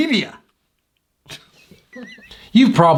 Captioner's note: man laughs